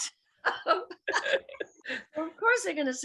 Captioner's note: laughs